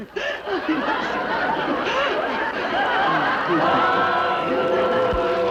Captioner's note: crowd laughing